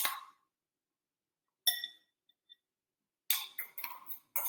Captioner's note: spoon scraping